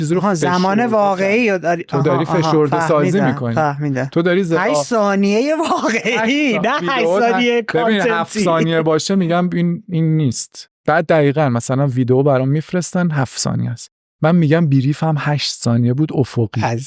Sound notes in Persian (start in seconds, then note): 5.6 خنده